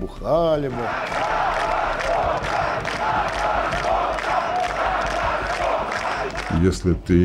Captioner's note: crowd chants